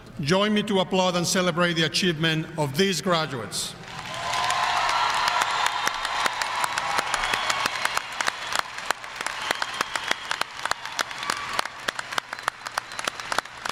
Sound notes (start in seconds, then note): 3.8 audience applauding; 3.9 audience cheering